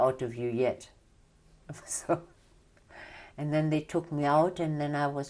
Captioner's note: laughs